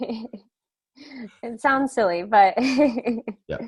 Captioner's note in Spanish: laughs